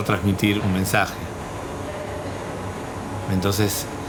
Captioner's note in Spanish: sonido ambiente: impresora